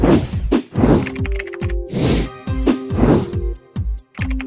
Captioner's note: keyboard clicking